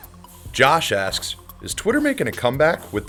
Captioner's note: voiceover